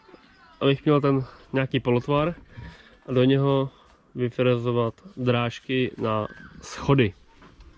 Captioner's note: steps